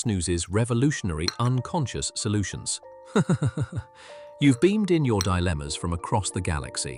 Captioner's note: laughs